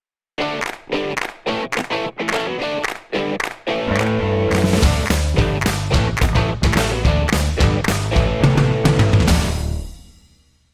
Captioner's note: applause